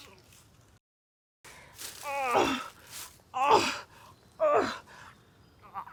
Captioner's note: groaning